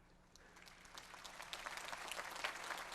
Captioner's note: applause